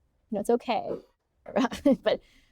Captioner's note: chuckling